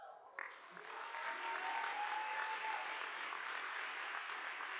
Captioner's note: audience applauding